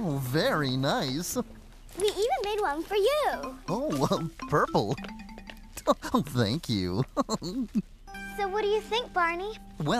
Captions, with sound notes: VERY NICE! WE EVEN MADE ONE FOR YOU! OH! PURPLE! ( Chuckles ) THANK YOU! SO, WHAT DO YOU THINK, BARNEY?